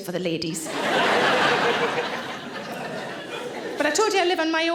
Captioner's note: audience laughing